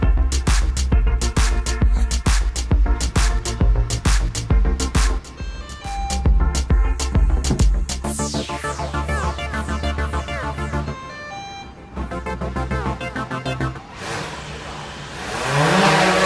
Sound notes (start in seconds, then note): 5.4 drone beeps; 10.9 drone beeps